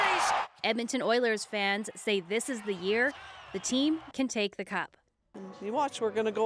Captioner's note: cheers and Applause